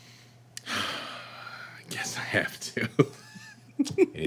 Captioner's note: sighing